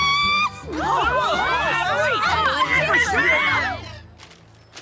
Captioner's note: excited shouts